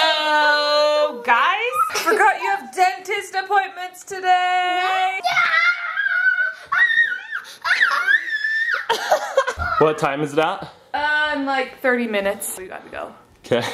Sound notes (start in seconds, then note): 5.2 screaming; 9.3 laughing